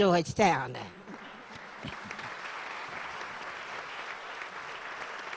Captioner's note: audience applause